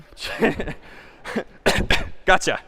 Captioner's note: chuckle; cough